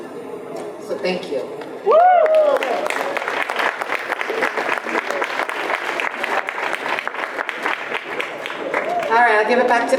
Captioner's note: audience applause